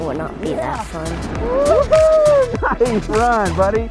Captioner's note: laugh